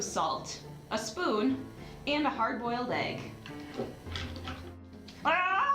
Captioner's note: scream